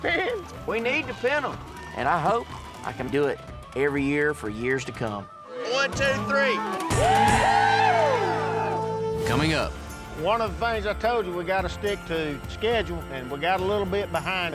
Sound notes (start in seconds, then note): 5.7 everyone cheers